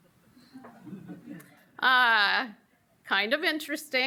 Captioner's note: audience laughs